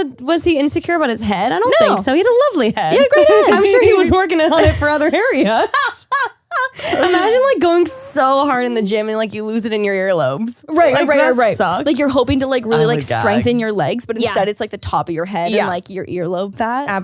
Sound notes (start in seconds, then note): 5.9 laughs